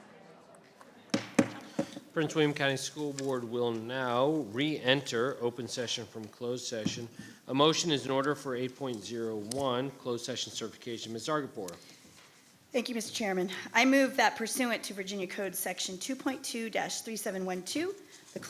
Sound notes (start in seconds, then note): 1.1 gavel thuds